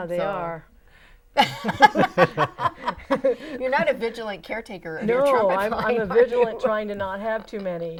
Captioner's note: laughing